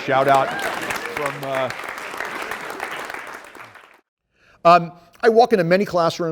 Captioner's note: applause